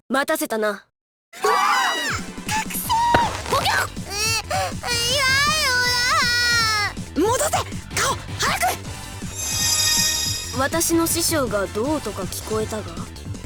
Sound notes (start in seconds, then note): 1.4 panicked cry; 3.8 muffled surprise